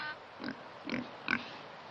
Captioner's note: snorting, oinking